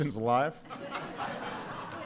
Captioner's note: laughter